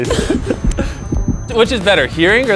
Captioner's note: heart beating